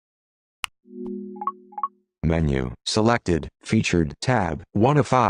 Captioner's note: remote beeps